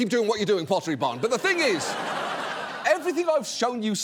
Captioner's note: audience laughs